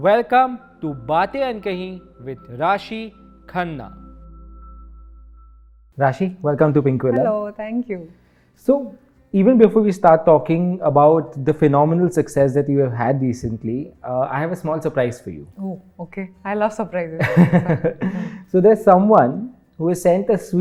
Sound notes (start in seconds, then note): 17.3 laughs